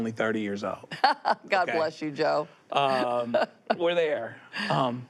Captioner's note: laughs